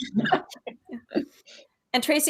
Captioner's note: all chuckling